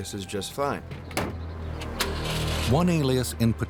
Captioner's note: engine starts